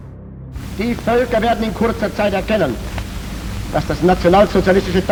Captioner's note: speaking foreign language